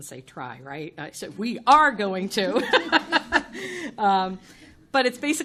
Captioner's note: chuckles